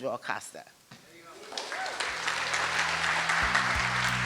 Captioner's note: applause